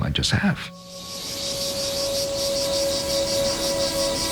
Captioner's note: insects chirring